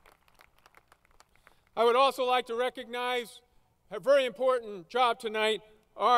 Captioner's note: applause